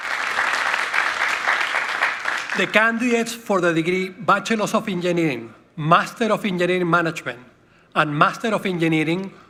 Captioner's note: applause